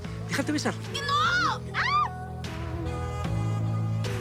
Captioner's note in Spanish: Grito